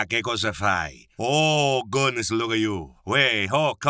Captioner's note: speaking in a foreign language